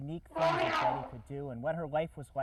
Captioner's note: elephant trumpet